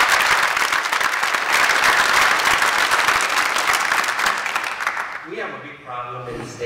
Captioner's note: applause